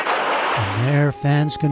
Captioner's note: shouting